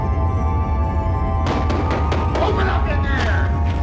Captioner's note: knocking at door